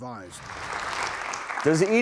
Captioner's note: crowd clapping